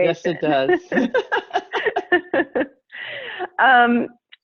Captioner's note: laughs